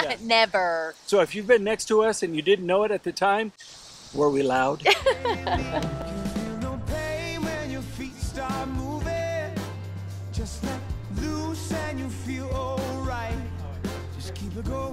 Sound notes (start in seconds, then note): 0.0 laughs; 4.8 laughs